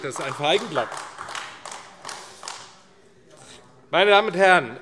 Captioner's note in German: Beifall AfD